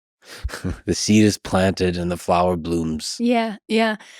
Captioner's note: chuckles